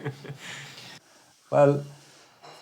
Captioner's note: laughing